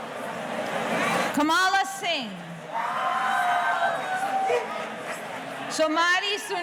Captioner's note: audience cheering